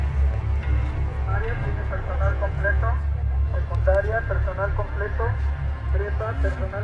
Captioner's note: loudspeaker